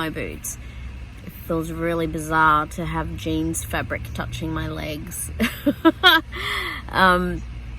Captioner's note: laughs